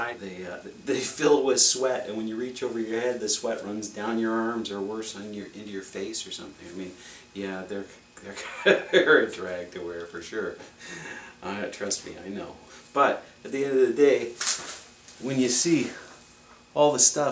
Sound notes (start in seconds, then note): 8.3 laughs